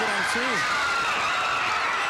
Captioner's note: crowd cheering